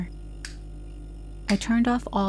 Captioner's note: light Switch off